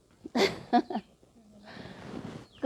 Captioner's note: chuckles